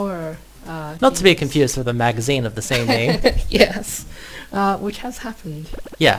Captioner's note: laughs